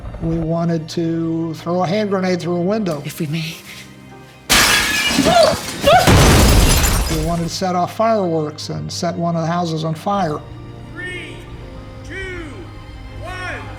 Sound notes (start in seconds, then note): 4.4 gasps; 4.5 glass shatters; 5.8 explosion